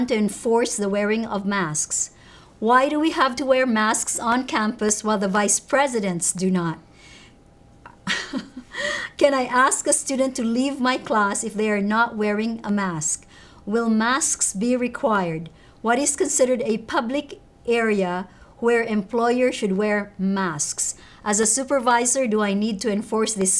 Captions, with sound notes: to enforce the wearing of masks. Why do we have to wear masks on campus while the vice presidents do not? (laughs) Can I ask a student to leave my class if they are not wearing a mask? Will masks be required? What is considered a public area where employers should wear masks? As a supervisor, do I need to enforce this?"